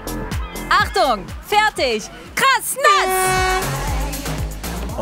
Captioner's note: Dynamische Musik; Lautes Tröten